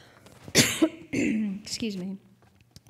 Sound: coughing

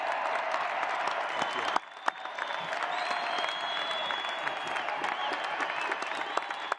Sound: applause

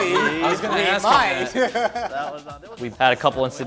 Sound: laughing

